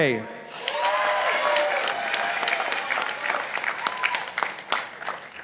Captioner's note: participants applauding